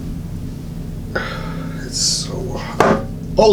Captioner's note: grunts; knocking sound